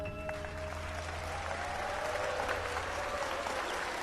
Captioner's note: audience applauding